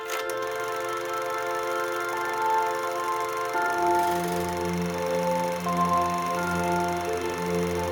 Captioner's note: sound of running projector